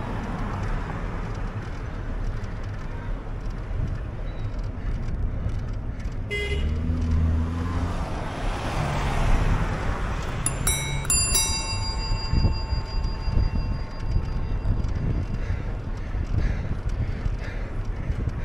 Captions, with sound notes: [BEEP, VROOOMMM] Oh yeah? Take THAT! [DING-DONG! DING-DONG!] That'll teach'em!